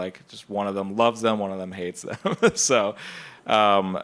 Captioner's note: laughs